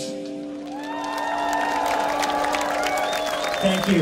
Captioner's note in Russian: аплодисменты